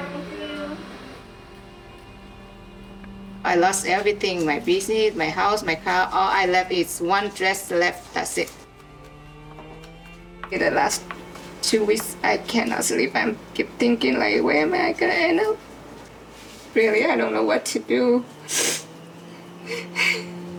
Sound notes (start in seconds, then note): 11.2 voice breaking; 18.4 sniffles